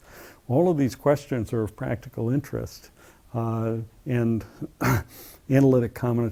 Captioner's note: cough